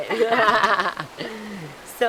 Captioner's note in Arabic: يضحك